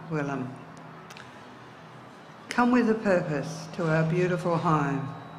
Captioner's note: speaks in indigenous dialect